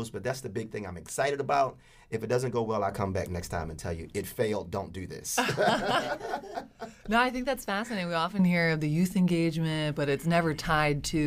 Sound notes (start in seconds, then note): 5.4 both laugh loudly